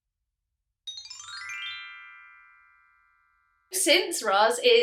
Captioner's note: chimes